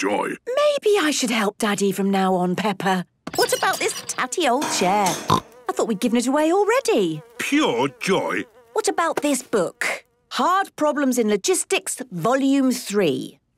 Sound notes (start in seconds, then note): 5.1 snorting